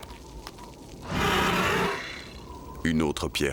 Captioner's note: both growl